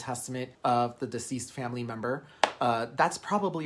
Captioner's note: hand slapping